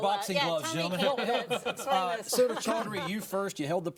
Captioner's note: all chattering